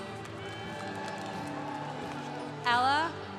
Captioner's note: congregation cheering